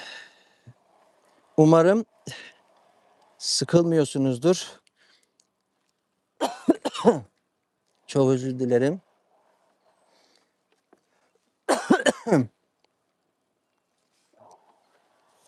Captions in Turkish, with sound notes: [iç çeker] Umarım sıkılmıyorsunuzdur. Çok özür dilerim. [öksürme] [boğazını temizler]